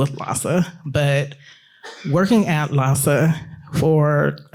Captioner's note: attendee coughing